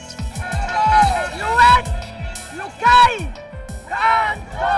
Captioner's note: chanting